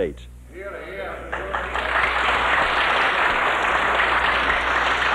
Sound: applause

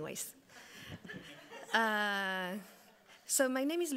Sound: audience laughing

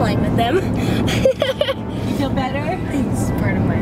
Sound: laughing

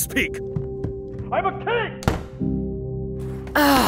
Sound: door slams

